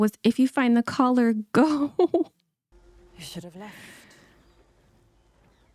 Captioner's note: laughs